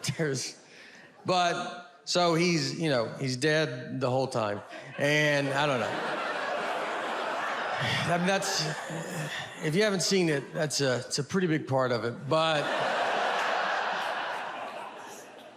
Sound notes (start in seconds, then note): 4.6 audience laughs; 12.2 audience laughs